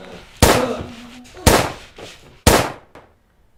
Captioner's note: gunshots